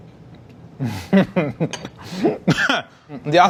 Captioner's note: laughing